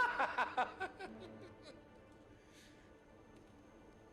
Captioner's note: laughing